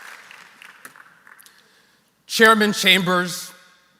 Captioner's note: applause